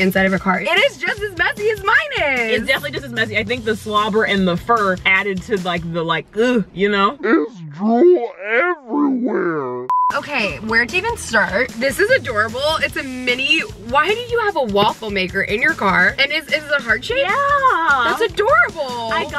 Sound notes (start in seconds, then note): 9.4 high pitched beeping